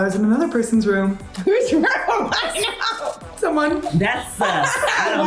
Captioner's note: laughs